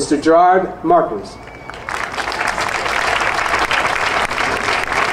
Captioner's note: audience applauding